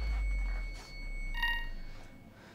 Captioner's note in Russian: писк телефона